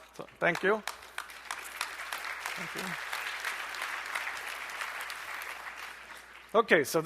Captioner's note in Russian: аплодисменты